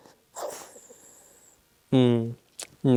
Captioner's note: Albert whimpering